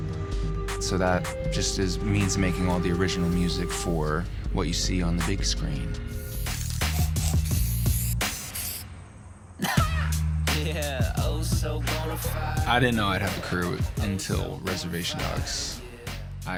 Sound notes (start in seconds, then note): 6.1 spray paint spraying; 9.6 rap music plays